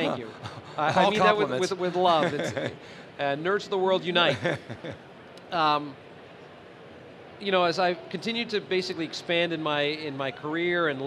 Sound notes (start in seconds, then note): 4.2 laughter